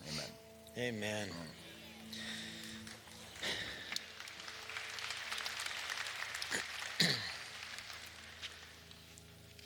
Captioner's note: applause